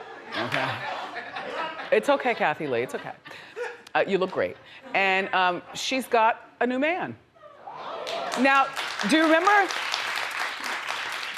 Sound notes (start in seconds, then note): 0.0 audience laughs; 8.0 audience applauds